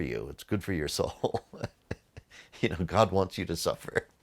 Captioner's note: chuckles